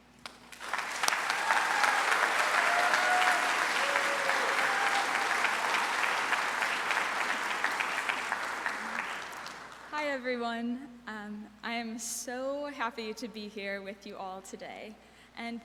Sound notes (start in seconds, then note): 0.2 audience applauds; 0.6 audience cheers